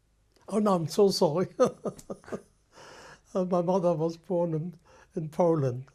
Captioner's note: laughs